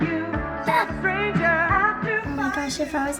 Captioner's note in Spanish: jadeo